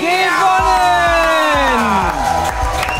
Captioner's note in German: Jubel, Applaus